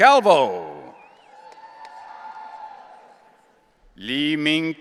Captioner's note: audience cheering